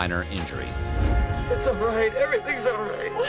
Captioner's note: crying